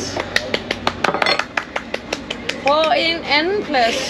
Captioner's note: applause